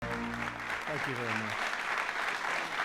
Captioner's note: applause